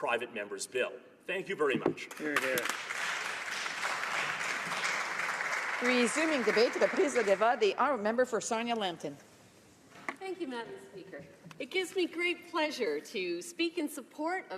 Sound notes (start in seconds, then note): 7.0 applause